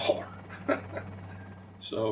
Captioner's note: chuckle